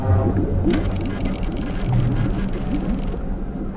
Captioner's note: photo station clicks and whirrs